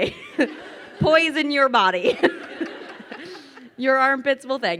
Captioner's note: crowd laughing